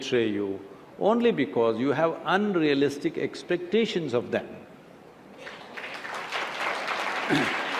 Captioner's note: applause